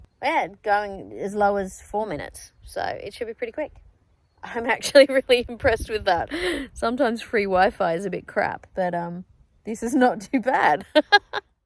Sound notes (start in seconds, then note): 4.4 laughing; 10.9 chuckles